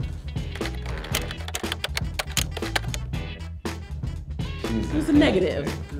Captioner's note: upbeat music; typing